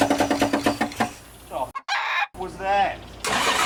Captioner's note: chicken noise